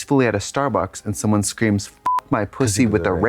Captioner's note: beep